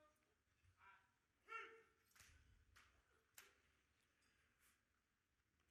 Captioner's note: officer calling out commands